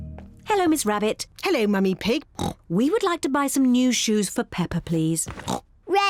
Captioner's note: oinks; oinks